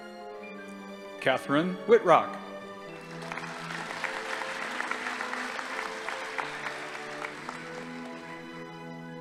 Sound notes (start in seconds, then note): 2.9 audience applauding